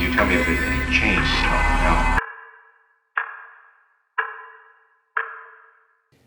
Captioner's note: music rises; patient screams, clock ticks down